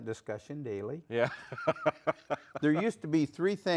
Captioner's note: laughs